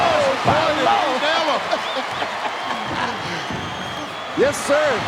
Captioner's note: chuckling